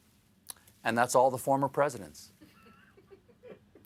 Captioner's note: laughter